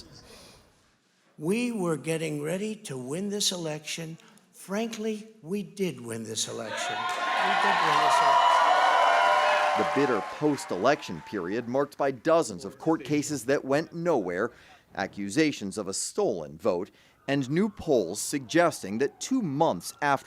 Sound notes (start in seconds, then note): 11.6 cheers